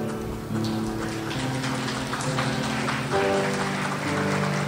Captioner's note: crowd applauds